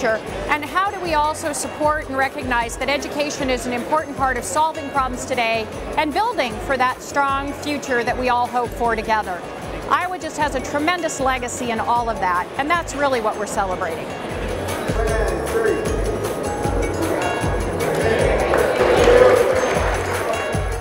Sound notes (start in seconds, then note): 18.5 clapping